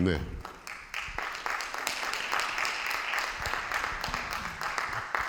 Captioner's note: audience applauding